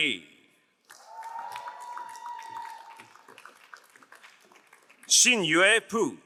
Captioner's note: crowd cheering and applauding